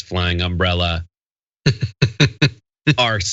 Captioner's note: laugh